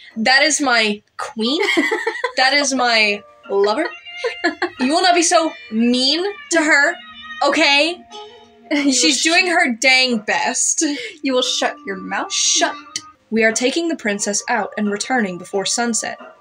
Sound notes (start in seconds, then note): 4.0 laugh; 8.7 chuckle